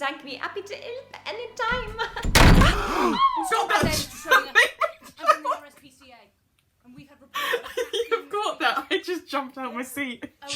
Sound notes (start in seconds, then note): 0.2 Sketch audio plays; 6.7 she laughs